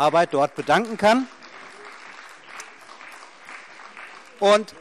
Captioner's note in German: Beifall CDU und BÜNDNIS 90/DIE GRÜNEN